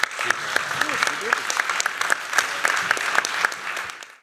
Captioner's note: applause